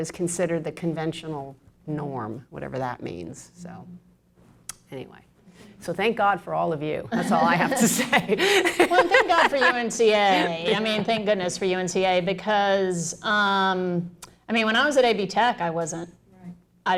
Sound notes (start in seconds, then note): 7.1 laughter